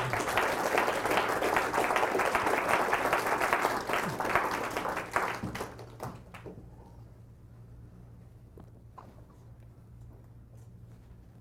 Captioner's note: applause